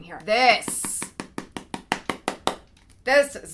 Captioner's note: finger tapping